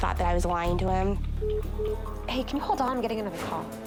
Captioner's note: phone beeping